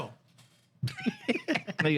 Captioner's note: laughing